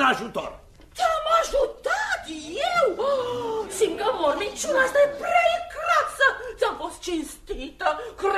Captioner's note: screams